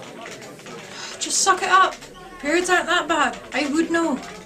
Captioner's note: sigh